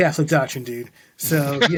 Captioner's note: chuckling